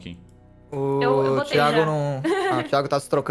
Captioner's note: laughs